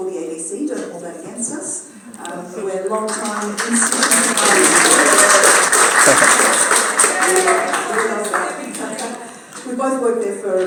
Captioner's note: applause